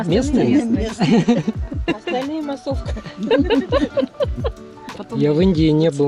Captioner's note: laugh